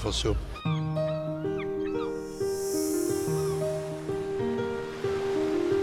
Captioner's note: seagulls chirping; peaceful music